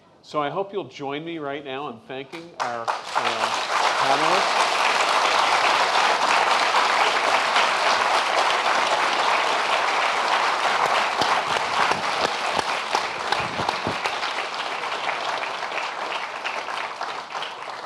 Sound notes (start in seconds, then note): 3.9 applause